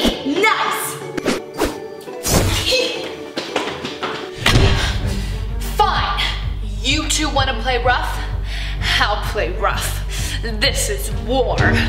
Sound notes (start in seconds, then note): 1.8 zapping; 3.3 laughing